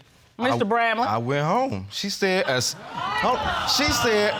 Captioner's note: audience exclaiming